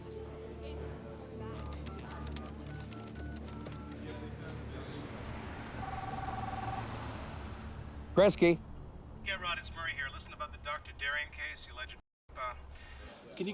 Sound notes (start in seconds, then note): 1.6 keypad beeps; 5.8 cellphone ringing